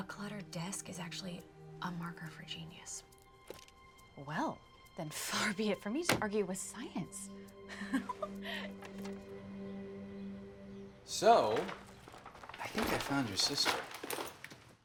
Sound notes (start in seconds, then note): 7.7 women laughing